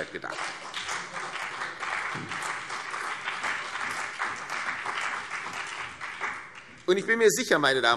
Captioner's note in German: Beifall CDU und BÜNDNIS 90/DIE GRÜNEN